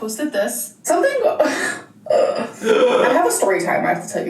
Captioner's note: chuckles